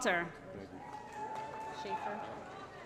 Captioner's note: applause & Cheering